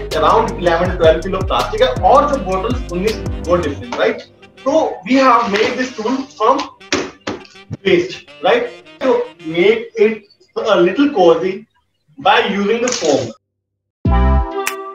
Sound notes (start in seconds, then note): 6.7 thumps